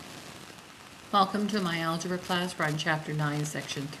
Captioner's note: voiceover